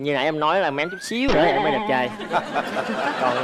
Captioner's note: laughing